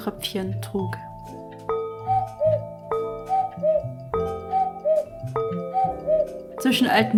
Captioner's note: cuckoo clock